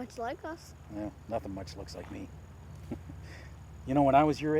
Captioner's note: chuckles